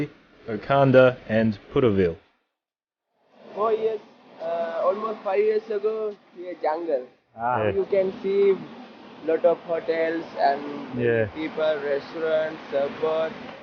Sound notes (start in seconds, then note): none